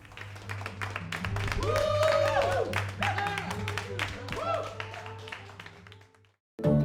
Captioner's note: audience cheers; audience applauding